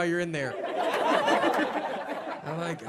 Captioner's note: audience laughs